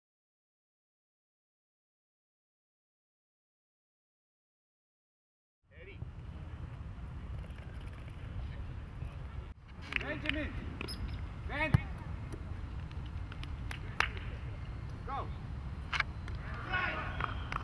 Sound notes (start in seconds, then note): 9.6 clapping; 13.9 clapping